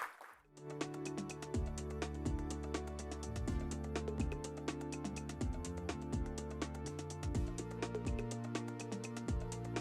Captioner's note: applause